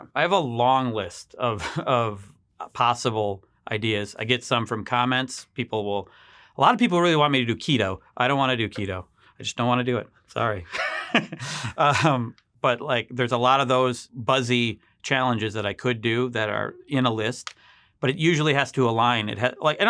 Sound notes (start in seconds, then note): 10.7 laughs